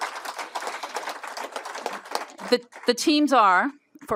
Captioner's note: applause